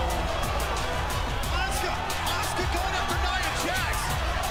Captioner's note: crowd cheering